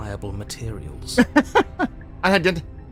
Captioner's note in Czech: smích